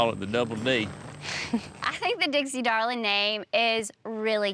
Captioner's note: laughs